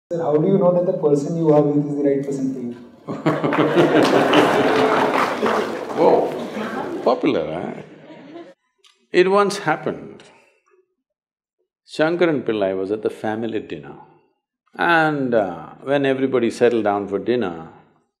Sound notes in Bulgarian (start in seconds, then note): 3.0 смях/ръкопляскания; 7.8 смях